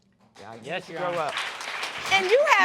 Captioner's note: applause